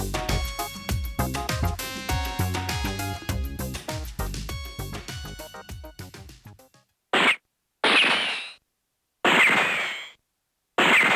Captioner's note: gunshot